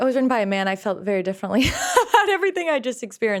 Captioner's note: laughs